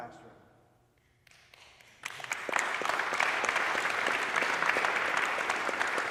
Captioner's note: audience applauding